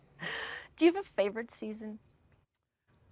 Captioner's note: both laugh